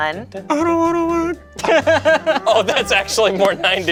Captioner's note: group laughs